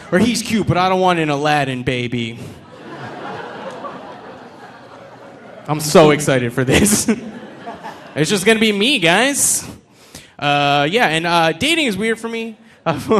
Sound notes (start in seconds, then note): 2.4 audience laughing